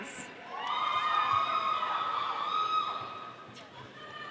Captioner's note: audience cheering